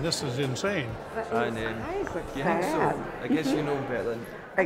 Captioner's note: chatter